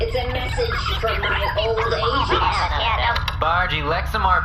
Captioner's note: plays voicemail